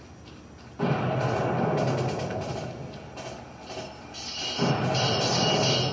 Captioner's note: canon fire, gunfire, swords clanging